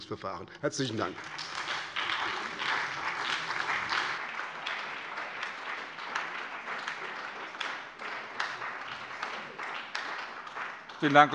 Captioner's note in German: Beifall bei der SPD